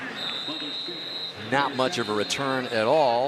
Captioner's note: whistle